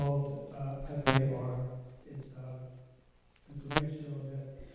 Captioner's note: mic buzzing